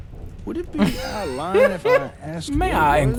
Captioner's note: laughing